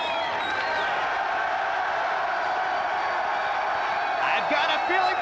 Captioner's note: crowd cheers louder